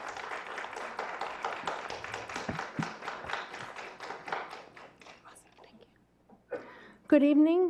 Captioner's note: clapping